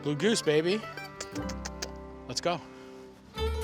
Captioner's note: kissing